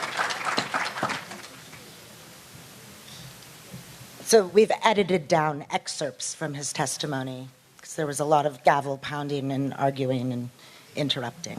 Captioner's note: applause